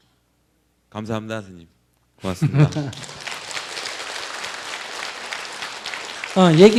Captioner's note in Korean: 청중 박수